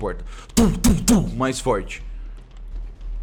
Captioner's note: tum tum tum